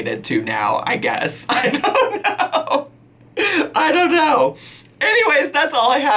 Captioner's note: laughing